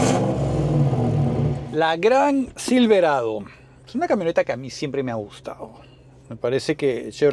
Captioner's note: engine Sound